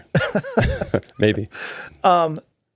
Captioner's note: laughing